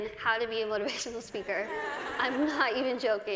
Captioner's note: cười